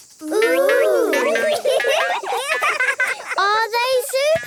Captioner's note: laughing